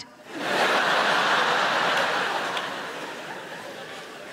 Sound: crowd laughing

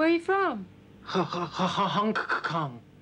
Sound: stuttering

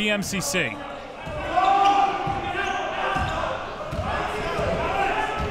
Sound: crowd cheering

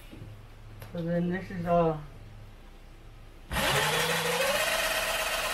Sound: grinding sound

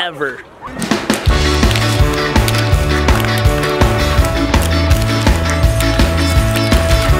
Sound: energetic music; fingerboard scraping

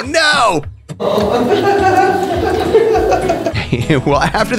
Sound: family laughing

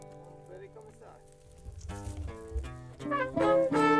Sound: guitar strums; fire crackling

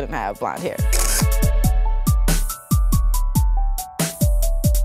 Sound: shutter clicking

